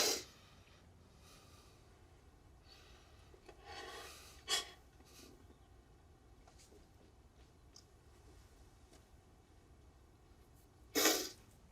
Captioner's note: sniffles